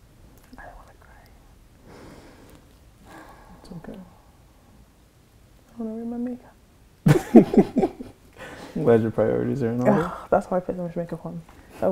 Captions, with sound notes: I don't wanna cry (sighs). - It's okay. - I don't wanna ruin my makeup. (both laughing) - I'm glad your priorities are in order. - Oh, that's why I put so much makeup on,